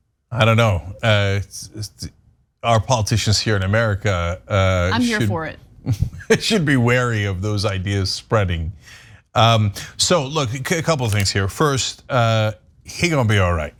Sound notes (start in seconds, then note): 5.9 laugh